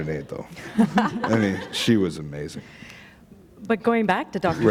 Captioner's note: laughter